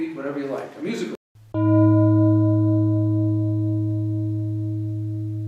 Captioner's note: bell tolls